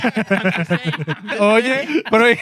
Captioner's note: laughing